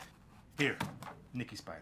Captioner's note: finger pounds cabinet